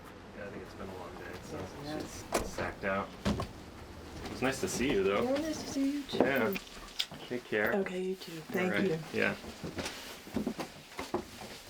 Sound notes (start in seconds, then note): none